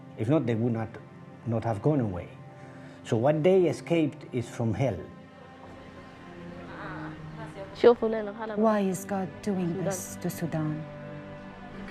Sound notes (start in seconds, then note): 7.7 speaking foreign language